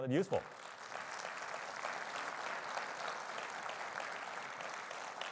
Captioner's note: audience applauding